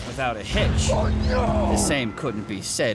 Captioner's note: speaking spanish